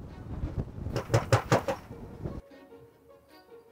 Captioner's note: knocking